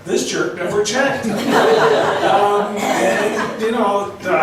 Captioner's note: laughs